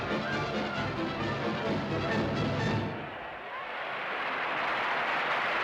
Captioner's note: cheers and applause